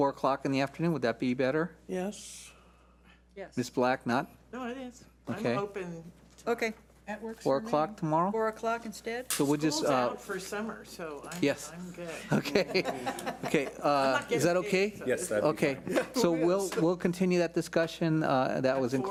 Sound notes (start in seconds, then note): 12.1 laughs